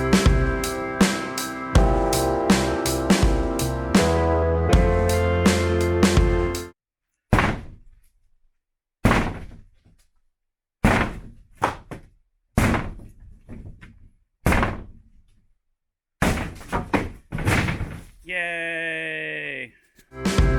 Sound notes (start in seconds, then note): 7.5 wife wielding sledgehammer noises; 16.1 wood hits floor off-screen